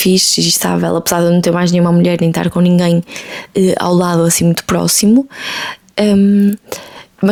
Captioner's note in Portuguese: suspirando